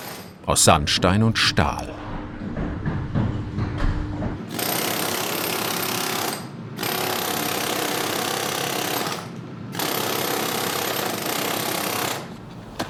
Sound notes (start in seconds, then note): 2.1 whirring, knocking